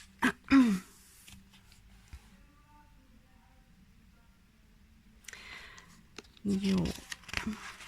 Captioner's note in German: räuspern